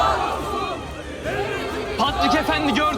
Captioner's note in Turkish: Hep bir ağızdan